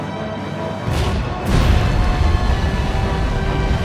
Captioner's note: intense, dramatic music; weapon blasts; loud boom; intense, dramatic music